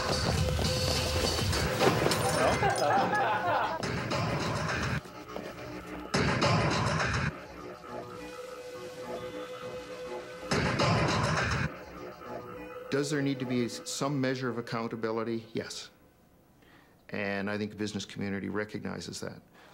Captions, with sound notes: (glass shattering) (people laughing) Does there need to be some measure of accountability? Yes. And I think the business community recognizes that.